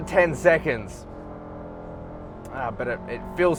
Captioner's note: car revving